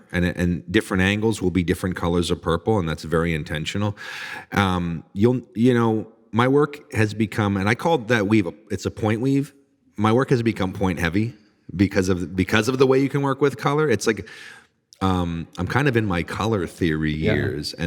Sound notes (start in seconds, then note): none